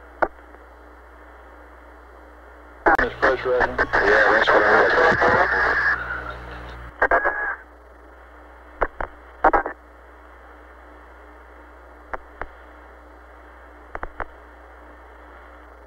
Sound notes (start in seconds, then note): 2.9 mission Control Audio